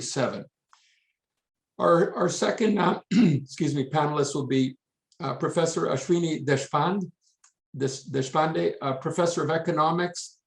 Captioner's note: coughs